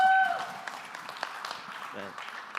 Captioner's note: applause